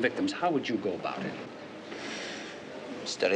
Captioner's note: sighs